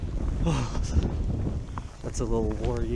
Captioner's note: sighs